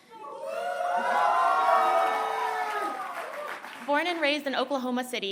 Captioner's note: cheering